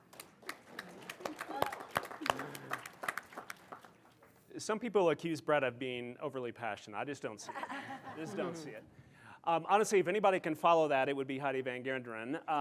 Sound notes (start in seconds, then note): 0.0 audience applauding; 7.5 audience laughing